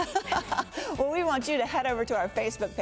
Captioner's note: laughs